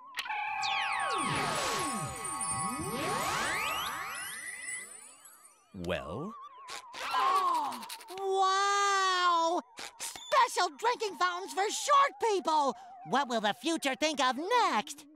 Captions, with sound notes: [whirring] Well? [gasping] Wow! Special drinking fountains for short people! What will the future think of next?